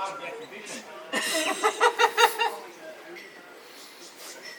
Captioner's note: laughs